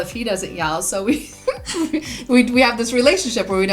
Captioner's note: laughs